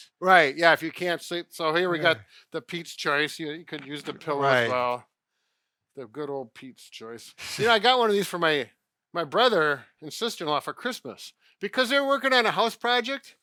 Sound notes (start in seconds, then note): 7.4 chuckles